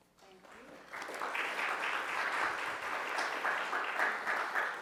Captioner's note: applause